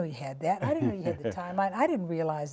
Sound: laughter

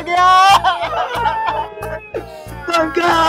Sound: crying

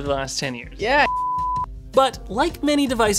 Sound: test screen beeps

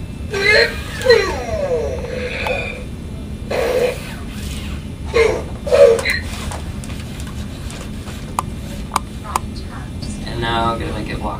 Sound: RoboSapien sighs

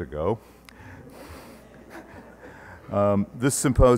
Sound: laughter

